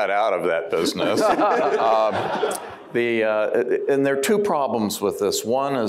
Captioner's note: laughter